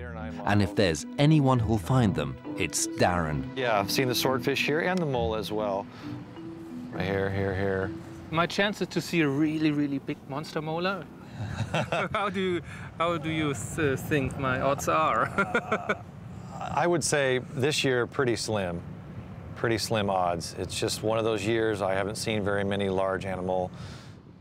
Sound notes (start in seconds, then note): 14.4 chuckles